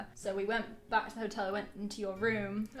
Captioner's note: none